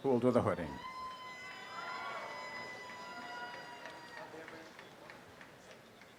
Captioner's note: applause and cheering